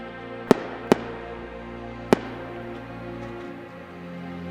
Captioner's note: gunshots